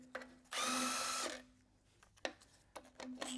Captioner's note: drill whirring